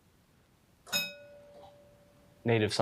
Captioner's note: bell dinging